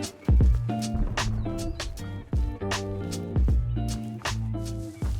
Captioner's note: satchel explosion in distance